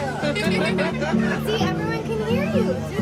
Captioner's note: laughter